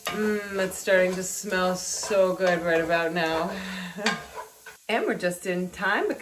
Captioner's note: laughs